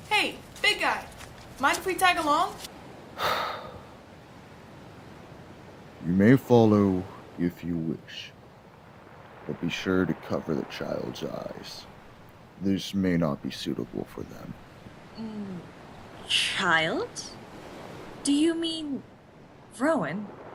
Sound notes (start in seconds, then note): 3.1 sigh